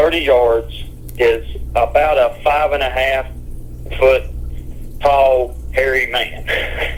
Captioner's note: chuckles